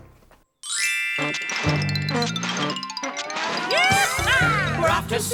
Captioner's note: upbeat music; soft twinkle; upbeat music